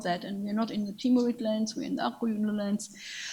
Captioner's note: speaks in a foreign language